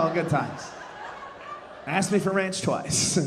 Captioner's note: audience laughing